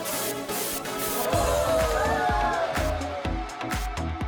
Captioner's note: crowd cheering